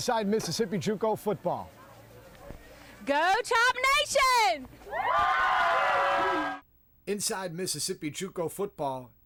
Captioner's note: cheering